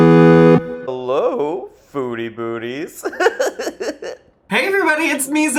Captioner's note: playful music; laughs